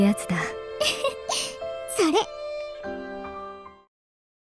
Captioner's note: chuckle